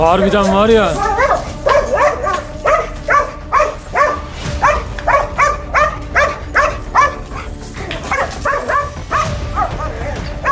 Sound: barking sounds and tension music

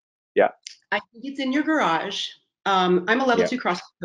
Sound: voice muffled

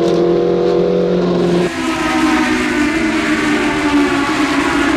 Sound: engine revving continues

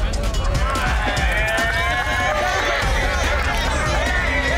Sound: crowd cheering

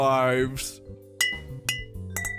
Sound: sound of glasses clinking

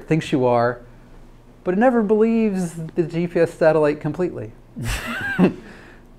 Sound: laughs

